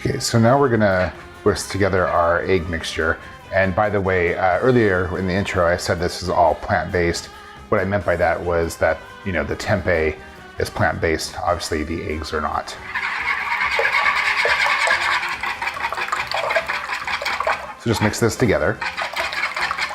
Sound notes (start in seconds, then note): 12.6 whisking eggs